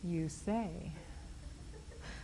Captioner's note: laughs